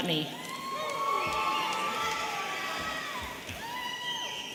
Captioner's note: audience cheering